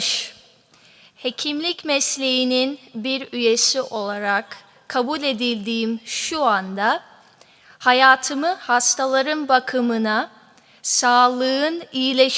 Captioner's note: speaking turkish